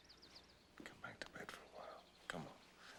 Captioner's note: none